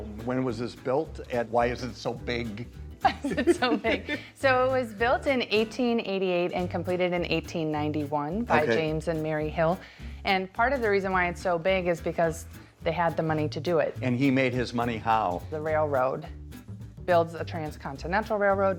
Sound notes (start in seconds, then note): 3.0 John laughs; 3.0 laughs